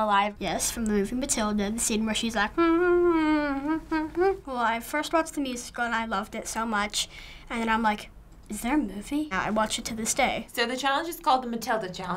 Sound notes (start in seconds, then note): 2.4 humming